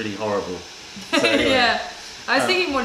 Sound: laughter

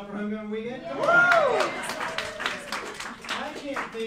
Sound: cheering and clapping

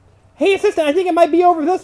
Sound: voiceover

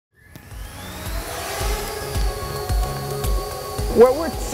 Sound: propellers whizzing

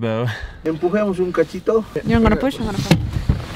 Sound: speaks foreign language

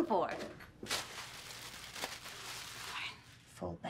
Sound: bag rustling

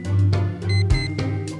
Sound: alarm Clock Beeps

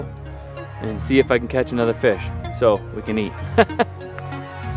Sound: laughs

